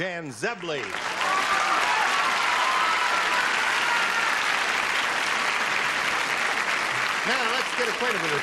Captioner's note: cheering and applause